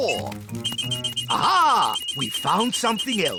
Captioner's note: beeps quickly; beeps slowly